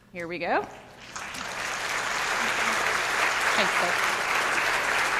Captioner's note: audience applauding